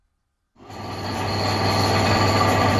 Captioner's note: mechanical whirring and clattering noise of the loom in operation